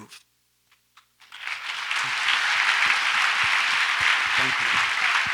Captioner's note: audience applauds